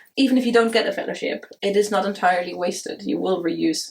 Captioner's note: none